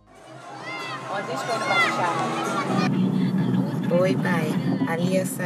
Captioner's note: children shouting